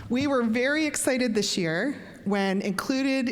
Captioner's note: none